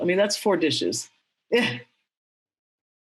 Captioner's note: chuckles